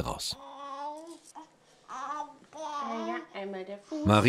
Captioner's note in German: Baby und Mama murmeln